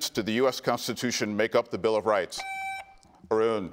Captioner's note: buzzer beeps